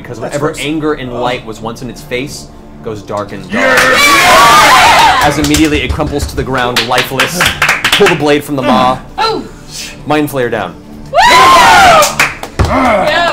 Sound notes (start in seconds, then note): 3.5 all cheer; 11.1 all cheer